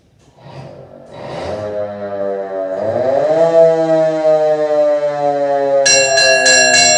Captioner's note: antique Fire Engine Siren